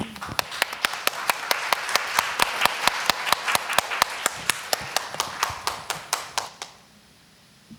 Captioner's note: applause